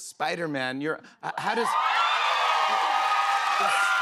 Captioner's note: cheers and applause